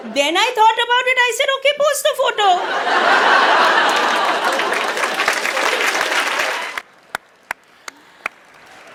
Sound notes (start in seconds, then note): 2.6 audience laughs; 5.0 audience applauds